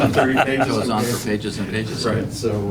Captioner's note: laughter